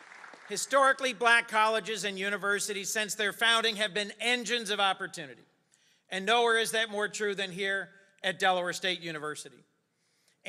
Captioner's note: applause